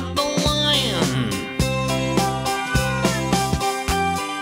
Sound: cub mewling

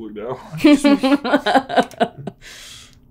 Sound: laughs

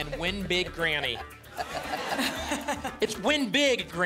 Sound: laughter

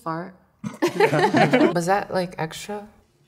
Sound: laughing

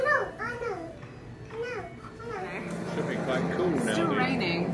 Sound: babbling

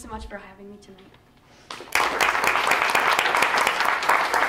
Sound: applause

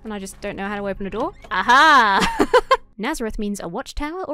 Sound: laughs

